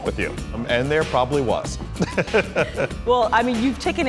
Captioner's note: laughing